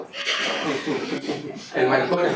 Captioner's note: laughs